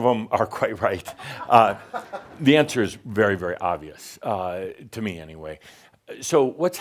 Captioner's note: a few chuckles